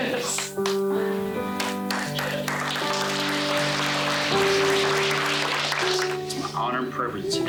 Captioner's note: applause